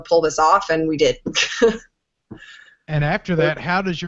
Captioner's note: laughing